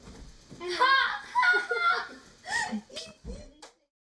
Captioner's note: kid’s laughter